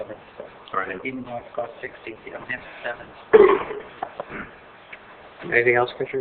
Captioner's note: audio interrupted by interference